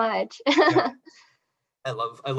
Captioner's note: laughs